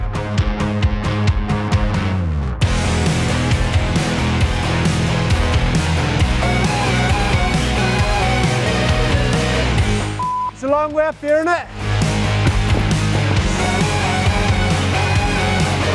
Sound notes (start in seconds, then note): 0.1 upbeat rock music; 10.2 beep; 12.8 upbeat rock music